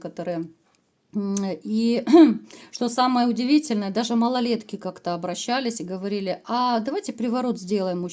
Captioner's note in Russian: откашливается